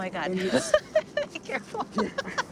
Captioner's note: laughs